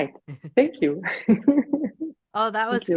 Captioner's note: laughs